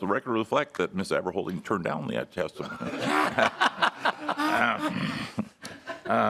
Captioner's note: laughing